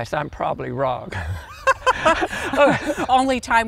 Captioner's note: both laughing